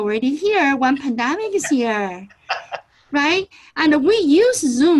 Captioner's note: laughs